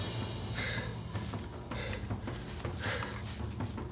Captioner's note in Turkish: Nefes sesi